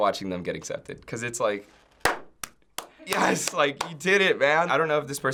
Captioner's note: claps